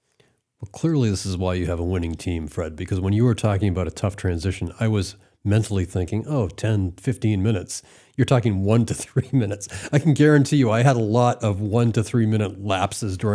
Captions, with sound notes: - Well clearly this is why you have a winning team, Fred, because when you were talking about a tough transition, I was mentally thinking, "Oh, 10, 15 minutes." You're talking one to three minutes. (laughs) I can guarantee you I had a lot of one to three minute lapses